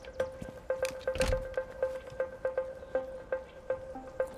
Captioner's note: door clunks